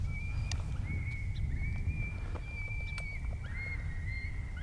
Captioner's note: coyote pups screaming